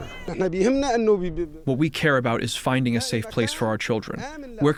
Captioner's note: through translator